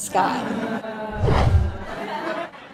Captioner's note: whoosh